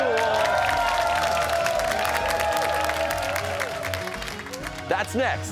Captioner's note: cheers and applause